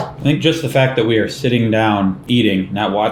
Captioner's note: none